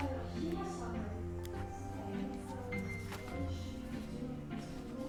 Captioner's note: Stevie speaking faintly